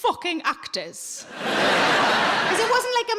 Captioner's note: audience laughing